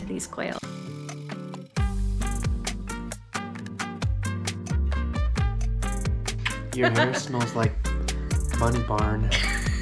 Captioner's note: smooch; both laughing